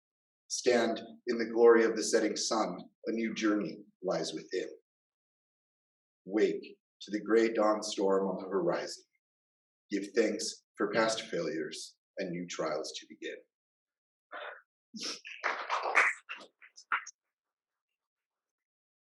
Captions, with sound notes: Stand in the glory of the setting sun, A new journey lies within. Wake to the grey dawn storm on the horizon. Give thanks for past failures and new trials to begin. [applause]